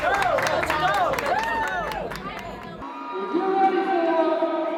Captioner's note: crowd cheering; group cheering and chattering